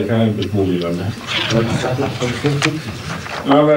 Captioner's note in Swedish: Gruppen skrattar